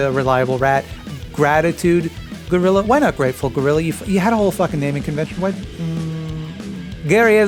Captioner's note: sighs